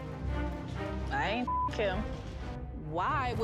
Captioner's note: beep